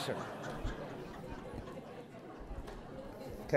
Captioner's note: laughter